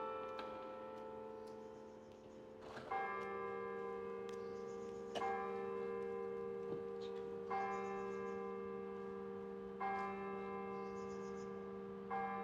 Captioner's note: bells